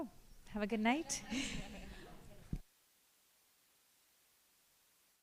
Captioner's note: laughter